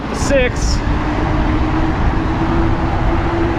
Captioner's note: wheels whirring